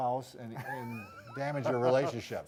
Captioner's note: laughs